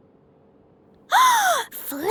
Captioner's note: gasps